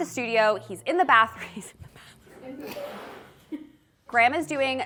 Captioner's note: laughs